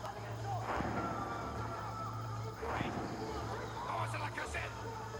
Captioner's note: all speaking foreign language